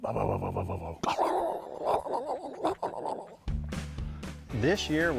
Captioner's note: imitating brake rumble; upbeat music